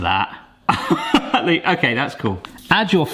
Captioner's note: laughing